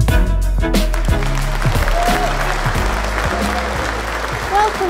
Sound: applause

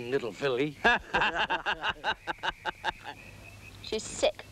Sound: both laughing

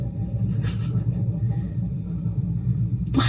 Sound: hesitantly laughs

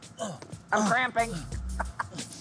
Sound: grunting

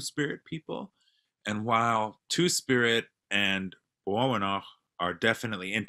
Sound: non-english speech

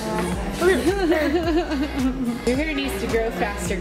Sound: both laughing

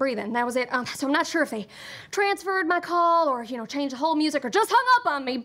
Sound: none

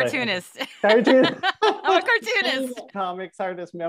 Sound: laughing

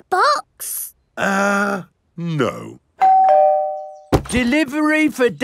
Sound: doorbell rings

